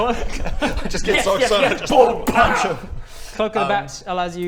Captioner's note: pow!